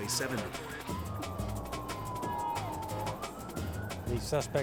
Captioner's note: sirens blaring